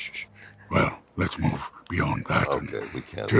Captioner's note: imitating proximus